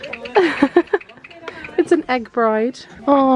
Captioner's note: giggling